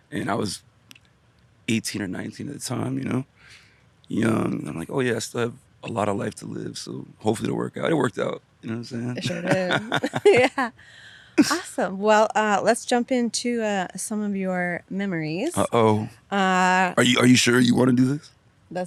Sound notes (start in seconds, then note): 8.7 laughs